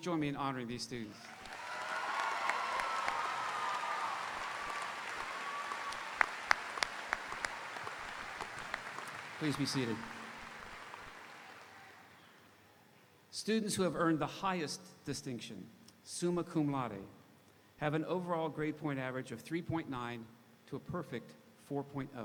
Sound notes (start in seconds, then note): 1.6 audience applauding; 1.6 audience cheering